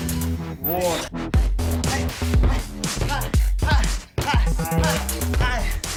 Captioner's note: grunting